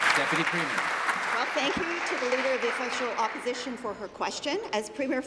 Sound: applause

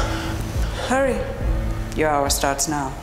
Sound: Michael pants

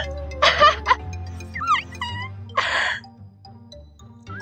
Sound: more laughter; puppy whining

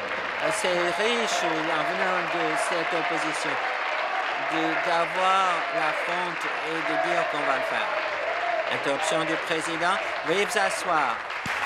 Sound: applause

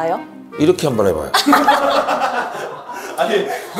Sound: ahaha

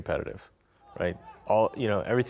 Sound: players shouting distantly

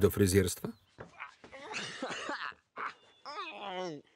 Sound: laughter

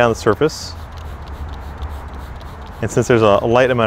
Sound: spray bottle squirting

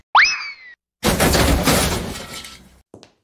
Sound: crashes through wall

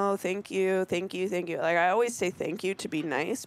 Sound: none

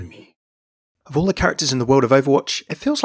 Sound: voiceover

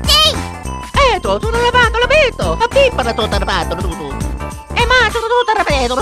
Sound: italian gibberish

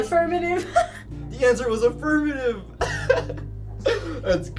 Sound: laughing

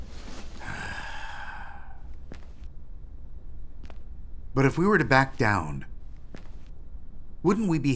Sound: sigh

